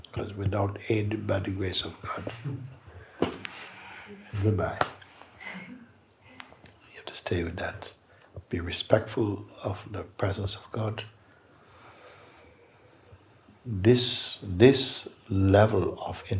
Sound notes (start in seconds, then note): 3.4 makes a popping sound